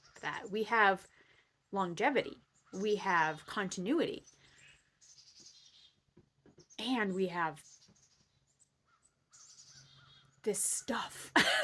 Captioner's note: laughing